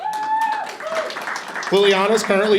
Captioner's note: audience applauding and cheering